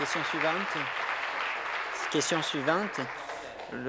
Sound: applause

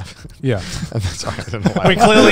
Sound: laughs

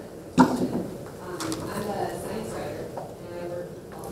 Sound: voiceover

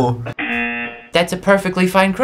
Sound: buzzer rings

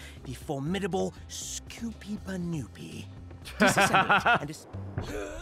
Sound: laughs

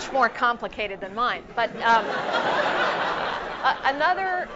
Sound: laugh

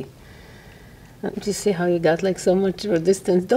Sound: breathes deeply

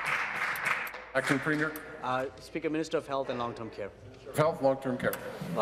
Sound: applause

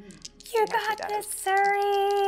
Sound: dice clacking

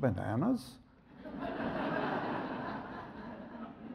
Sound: audience laughs

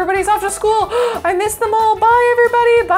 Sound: gasps

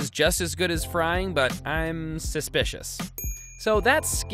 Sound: bell dings

